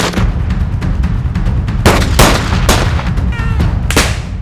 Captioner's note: guns firing